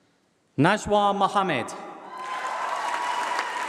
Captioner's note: applause